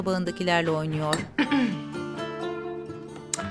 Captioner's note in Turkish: Boğaz temizleme sesi